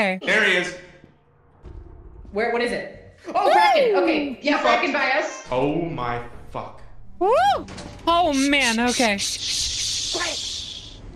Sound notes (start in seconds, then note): 3.4 yelps